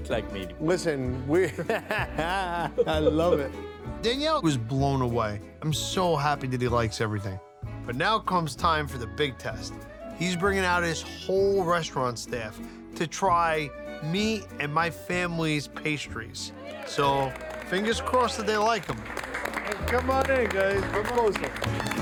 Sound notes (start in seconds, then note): 1.4 laughs; 18.8 staff applauding